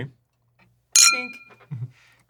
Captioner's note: glass clinking